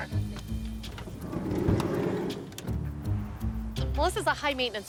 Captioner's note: car door slides open